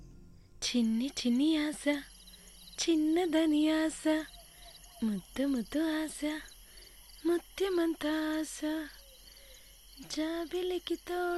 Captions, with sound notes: (Humming) "How can we fulfill our wishes if we are apart?" (humming continues)